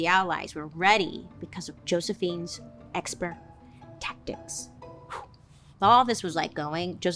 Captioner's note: puffs